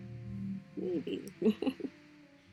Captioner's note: another small laugh